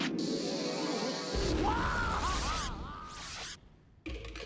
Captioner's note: Sylvester yelling